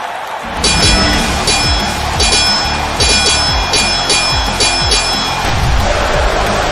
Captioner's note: heavy rock music; swords clanging; crowd cheering